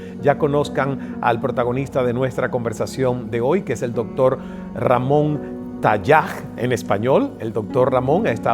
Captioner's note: in Spanish